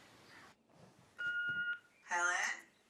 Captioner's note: machine beeping